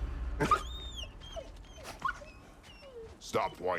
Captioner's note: whining